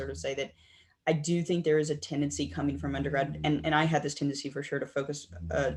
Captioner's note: laughing